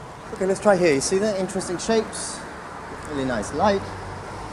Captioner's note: street noise